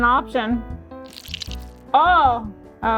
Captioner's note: resin squishing